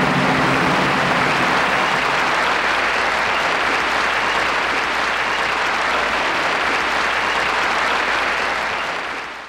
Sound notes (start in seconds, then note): 0.0 audience applause